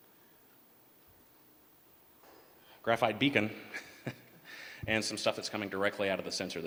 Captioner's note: laughter